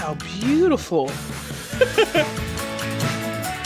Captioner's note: giggling